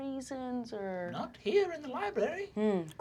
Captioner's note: elderly, high-pitched voice